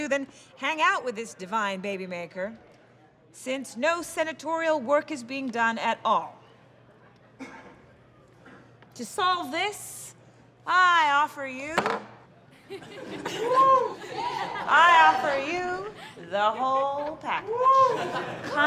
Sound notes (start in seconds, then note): 12.5 soft laughter and whooping; 17.0 laughter and whooping